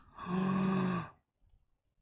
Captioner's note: gasps